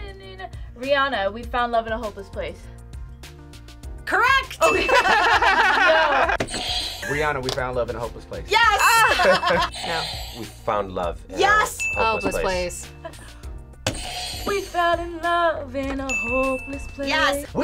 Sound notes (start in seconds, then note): 4.6 audio dings; 4.7 laughing; 9.0 audio dings; 16.0 audio dings